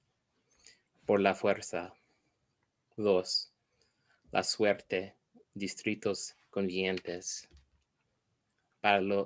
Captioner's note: foreign language